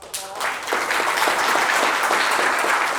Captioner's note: applause